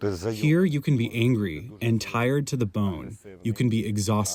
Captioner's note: through translator